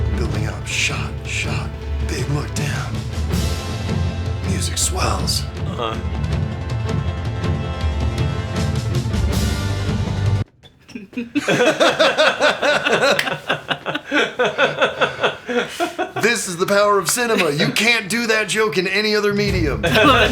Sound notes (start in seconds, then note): 10.6 squeaks of nope